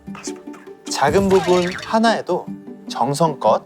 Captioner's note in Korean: 빵 터짐